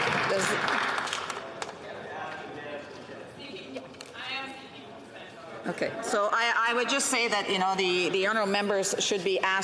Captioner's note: some Applause